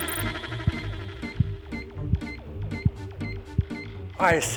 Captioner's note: heart beat thumps